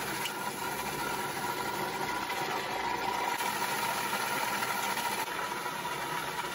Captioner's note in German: Geräusch des Mischpults